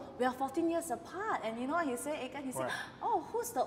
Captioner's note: gasp